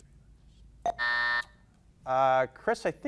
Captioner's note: buzzer buzzing